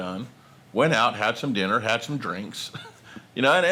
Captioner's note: snickers